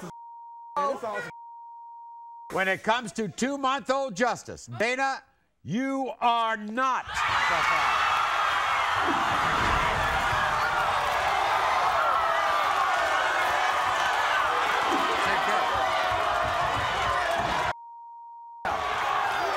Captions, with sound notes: - When it comes to two month old, Justice, Dana, you are not the father. (audience cheers)